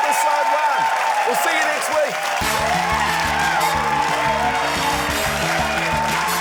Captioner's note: cheering, applause